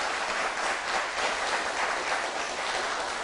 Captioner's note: applause